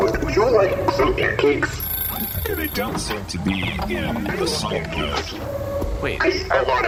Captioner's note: egg timer rings